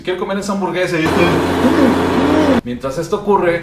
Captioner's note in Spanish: Sonido de motor que arranca